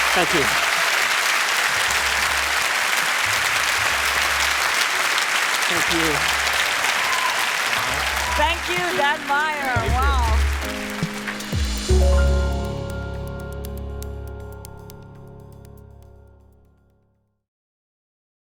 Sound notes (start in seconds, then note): 1.6 applause; 6.1 cheering